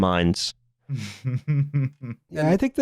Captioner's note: chuckles